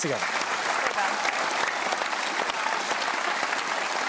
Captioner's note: applause